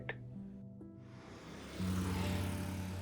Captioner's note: vehicle passing